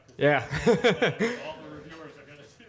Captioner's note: laughs